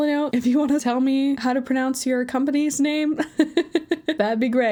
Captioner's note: laughs